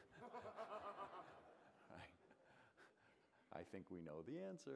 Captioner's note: laughter